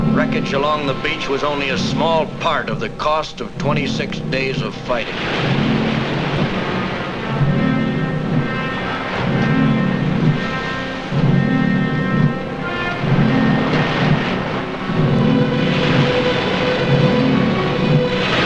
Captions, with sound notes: Wreckage along the beach was only a small part of the cost of 26 days of fighting. (waves crashing) (soft patriotic music)